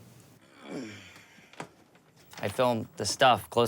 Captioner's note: grunting